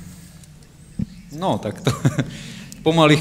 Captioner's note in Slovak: smiech